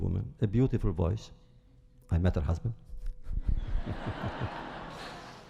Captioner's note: laughter